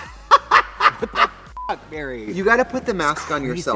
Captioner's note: Trixie laughs; beep